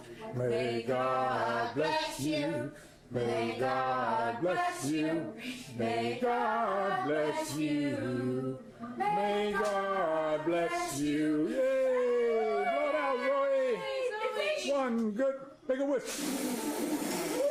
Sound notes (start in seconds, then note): 11.8 cheering